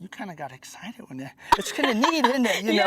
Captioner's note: laughter